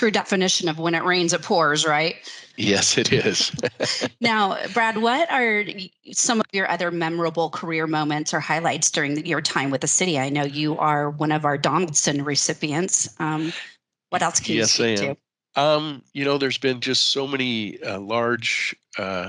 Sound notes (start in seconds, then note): 3.8 laughs